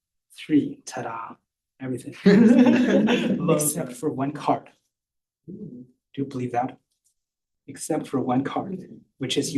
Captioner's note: laughter